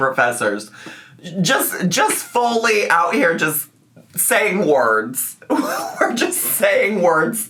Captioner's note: laughs